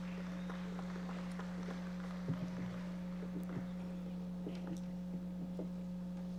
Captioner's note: audience members applauding